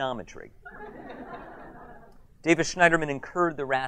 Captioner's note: audience laughs